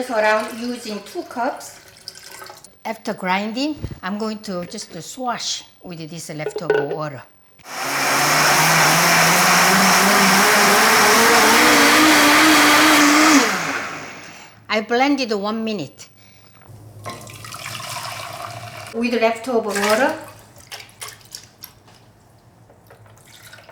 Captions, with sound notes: I will use around two cups. After grinding, I'm going to wash with this leftover water. (blender whirring) I blended for one minute. (liquid pouring) With leftover water. (water pouring)